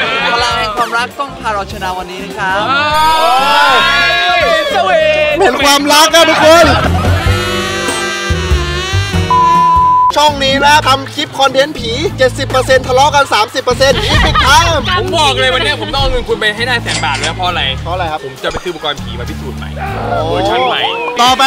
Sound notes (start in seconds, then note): 2.6 cheering; 2.7 mocking; 6.0 romantic music playing; 13.9 laughs